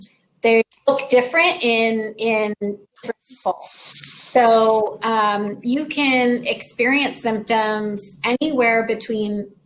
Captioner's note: technical glitch